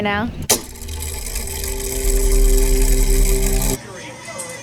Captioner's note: mechanism whirring